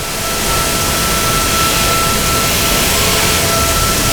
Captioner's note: engine revving